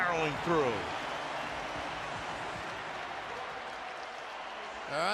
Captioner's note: cheering